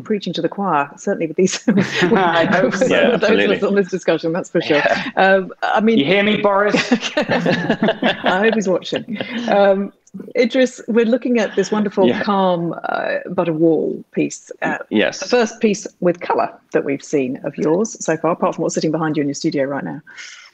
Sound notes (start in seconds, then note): 6.0 laughing